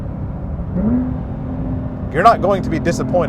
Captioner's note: car engine revving